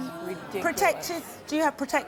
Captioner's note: murmuring